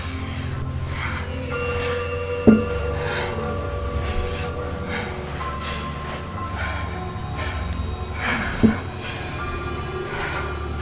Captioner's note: tapping continues